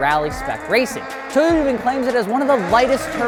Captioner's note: vehicle engine revving